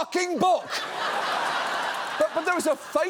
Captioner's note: audience laughs